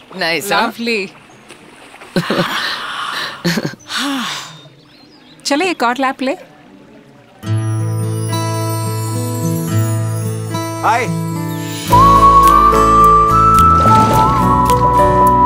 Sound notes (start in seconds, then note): 2.4 Poonam Deep breathing; 2.4 exhale; 3.2 Sheena Giggles